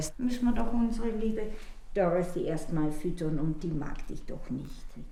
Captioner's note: speaks in foreign language